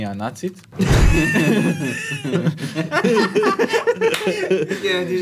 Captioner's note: laughs